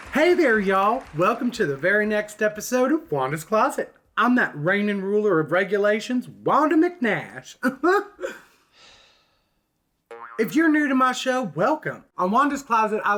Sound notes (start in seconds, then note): 7.8 chuckles; 8.9 sighs